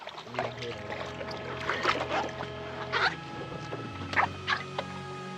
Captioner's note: speaking foreign language; water splashing